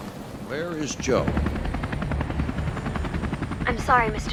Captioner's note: none